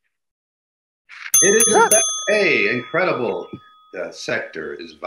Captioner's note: ding sounds